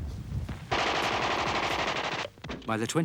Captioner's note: guns firing